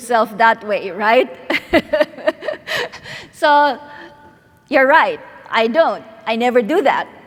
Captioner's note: laughs